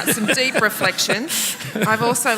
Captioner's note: laughter